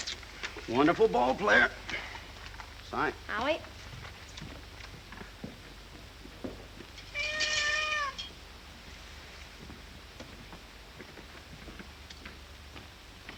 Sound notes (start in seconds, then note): 7.1 cat meows